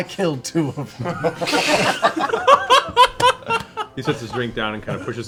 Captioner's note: laughter